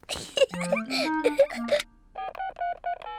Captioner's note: giggles